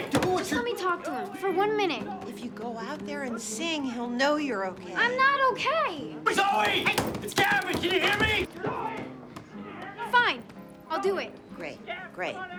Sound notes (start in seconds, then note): 0.0 pounding; 6.3 pounding